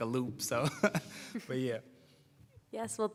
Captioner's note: laughter